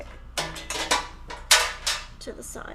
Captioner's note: clattering